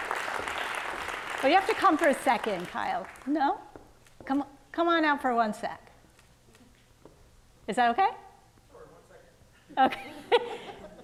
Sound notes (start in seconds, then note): 0.0 audience clapping; 9.8 laughing